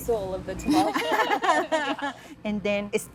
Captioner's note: laughter